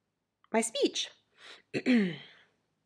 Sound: ahem

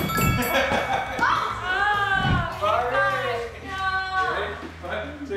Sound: bell chimes; excited chatter

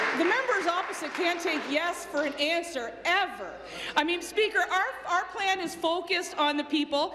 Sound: applause

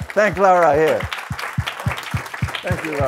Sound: audience applauding

